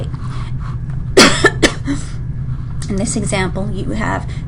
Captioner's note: coughs